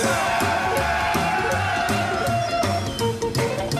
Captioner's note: people shouting